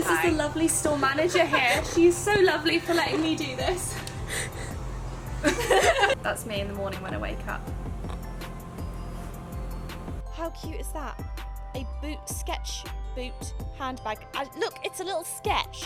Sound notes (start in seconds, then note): 3.9 laughing